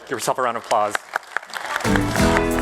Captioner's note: applause